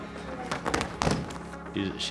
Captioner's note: body slam